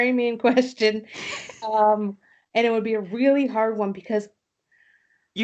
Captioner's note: laughter